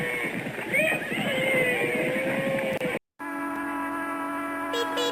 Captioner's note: yee-haw sounds